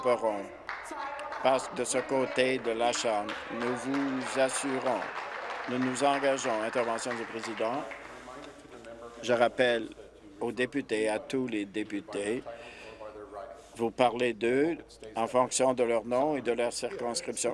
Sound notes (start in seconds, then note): 6.9 applause